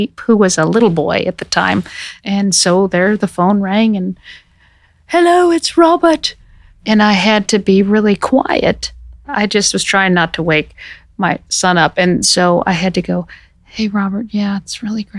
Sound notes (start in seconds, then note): 4.2 imitating RP; 12.6 quietly, flatly